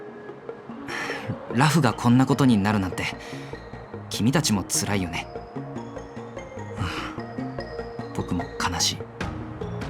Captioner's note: sigh; sigh